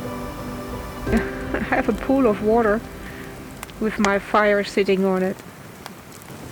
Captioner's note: laughs